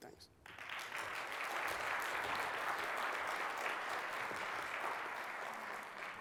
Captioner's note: applause